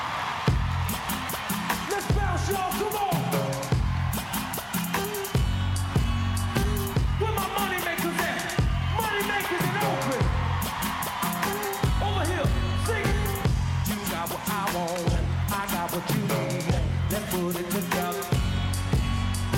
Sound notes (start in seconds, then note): 1.5 cheers